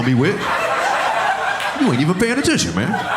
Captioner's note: audience laughing